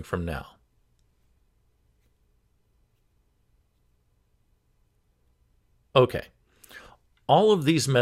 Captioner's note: 5 second pause